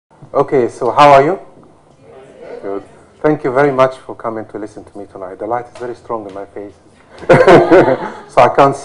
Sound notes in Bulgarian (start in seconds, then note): 7.0 смях